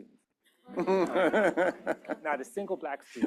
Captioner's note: laughter